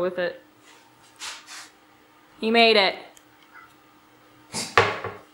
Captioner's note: cat gives congratulatory meow